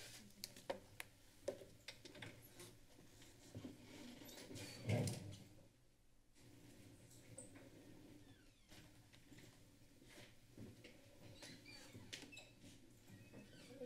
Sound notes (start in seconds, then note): 4.5 door opening; 11.0 door opening